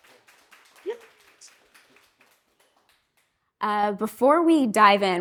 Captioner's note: audience claps